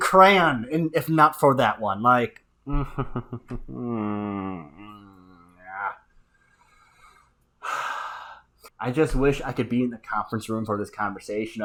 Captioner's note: sigh